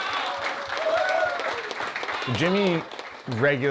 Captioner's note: players cheering; hands clapping